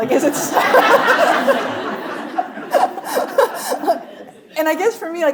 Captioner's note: audience laughing; laughing